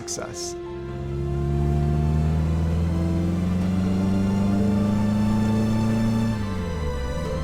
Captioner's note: bright upbeat music; car engine roaring